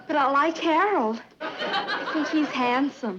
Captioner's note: audience laughing